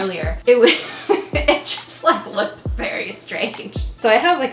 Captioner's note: chuckling